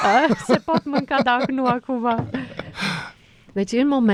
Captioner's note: laughter